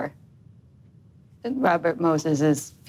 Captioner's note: none